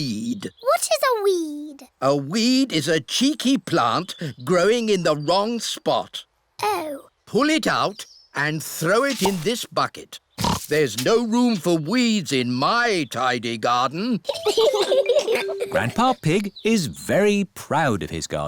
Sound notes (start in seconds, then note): 10.4 oinks; 14.3 both laugh